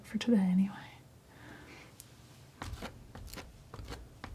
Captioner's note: scratching